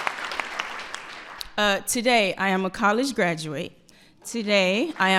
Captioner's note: applause